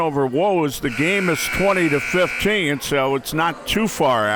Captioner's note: buzzer ringing